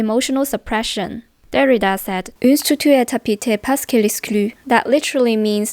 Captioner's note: French